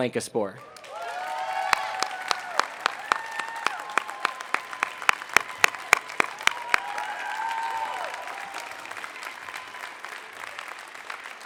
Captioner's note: applause